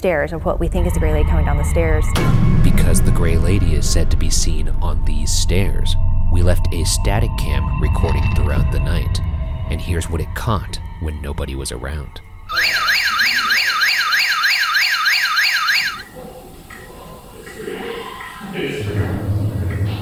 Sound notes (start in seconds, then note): 12.4 alarm blares